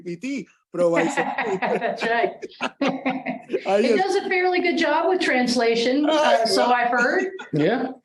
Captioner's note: laugh